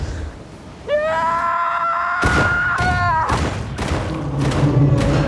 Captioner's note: roaring